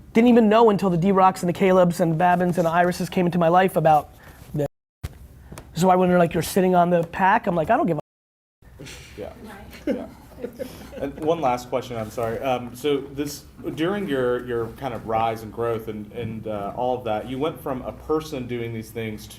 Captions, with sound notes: Didn't even know until the D Rocks and the Calebs and Babins and Irises came into my life about. So I wonder like you're sitting on the pack, I'm like I don't give a. (chuckling) - One last question I'm sorry. So this, during your your kind of rise and growth and all that you went from a person doing these things